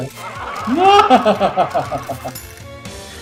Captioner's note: soldiers laugh; laughs ostentatiously